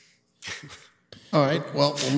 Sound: chuckles

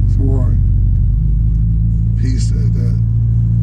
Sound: engine roaring

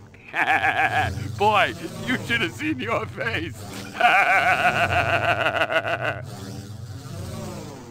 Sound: laughing

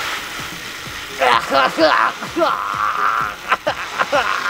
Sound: groaning

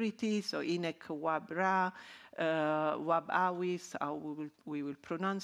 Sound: speaking in ancient Egyptian

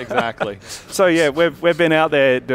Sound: laughter

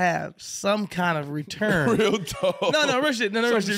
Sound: chuckles

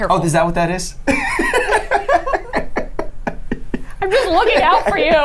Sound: laughs

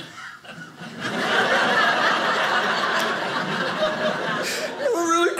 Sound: audience laughing

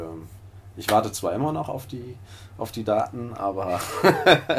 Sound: laughter

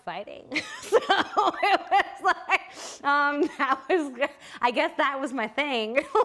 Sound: laughter

